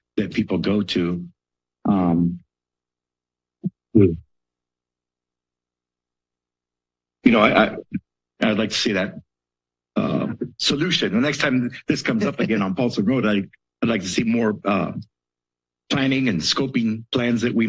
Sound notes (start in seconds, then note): 3.7 pause